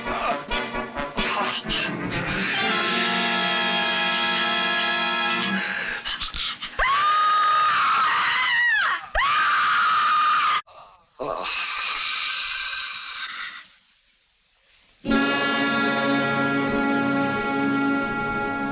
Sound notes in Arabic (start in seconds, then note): 0.0 موسيقى درامية; 6.8 ليندا تصرخ; 15.1 موسيقى متوترة